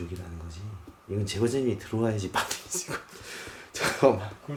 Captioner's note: laugh